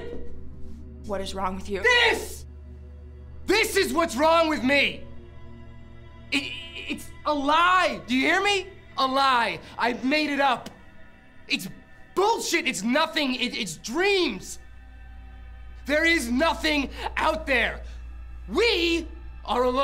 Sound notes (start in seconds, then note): 5.3 stammers